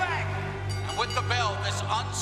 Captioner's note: bell ringing